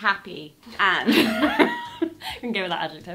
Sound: laughing

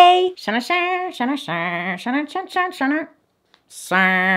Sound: humming

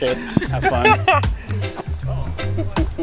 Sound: laughter

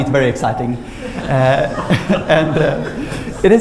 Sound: laughter

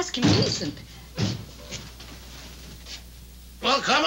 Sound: door thudding

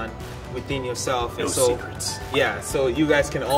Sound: deep voice

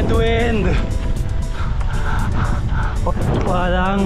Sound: gasps

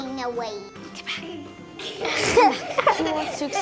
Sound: laughing

